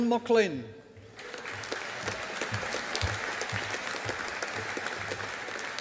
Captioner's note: audience applauding